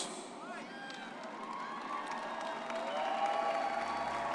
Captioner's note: crowd cheering